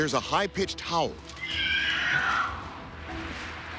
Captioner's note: screeching